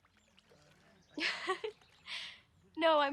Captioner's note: laughs